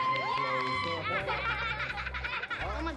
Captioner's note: applause; laughter